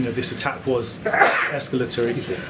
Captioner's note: a reporter sneezes